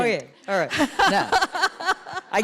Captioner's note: laughter